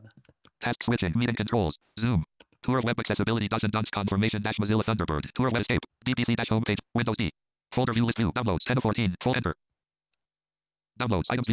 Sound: screen reader reads fast

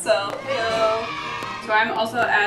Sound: kids cheer

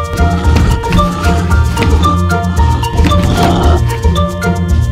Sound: werewolf snarling

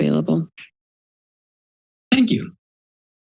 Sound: silence

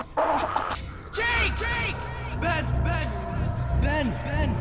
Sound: voices grow louder

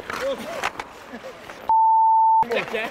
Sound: laughs

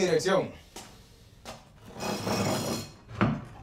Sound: scraping

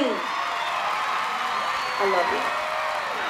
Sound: cheers and applause

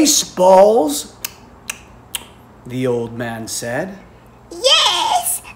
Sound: tongue clicking

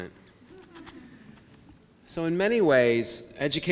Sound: laughing

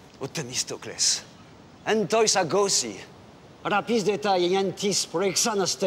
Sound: Eurybiades speaking in foreign language

